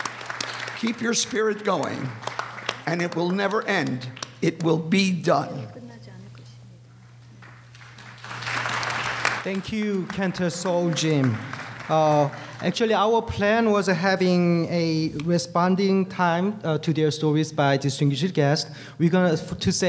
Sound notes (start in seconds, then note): 7.4 applause